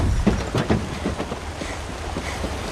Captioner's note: panting